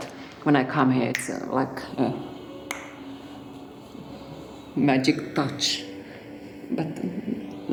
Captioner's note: snaps fingers